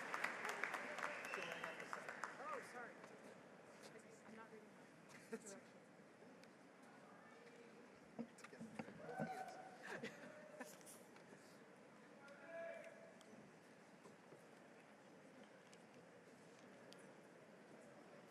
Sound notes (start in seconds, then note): 0.0 applause